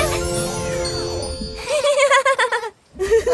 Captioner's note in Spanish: Risas